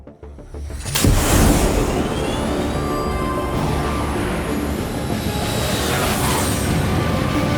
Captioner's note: dramatic music; fighter jet whooshes